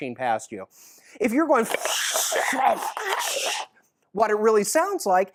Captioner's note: makes wind noise